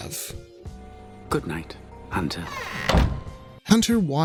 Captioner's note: door creaks